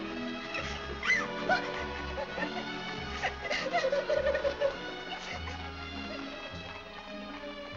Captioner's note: Annie crying